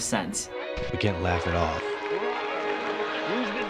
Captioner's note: voice-over